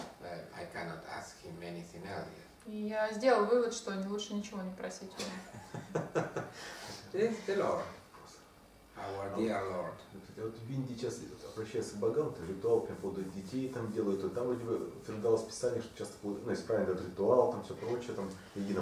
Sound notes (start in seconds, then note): 5.4 hahaha